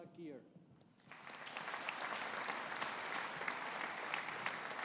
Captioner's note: audience applauding